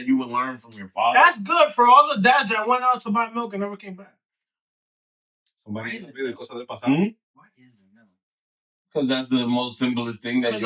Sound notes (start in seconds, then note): 6.2 speaking In Foreign Language